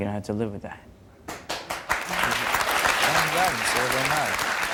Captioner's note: crowd clapping